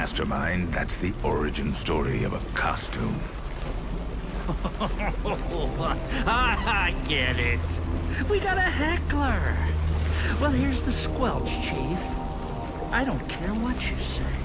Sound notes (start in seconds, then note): 4.4 laughs; 5.7 ominous music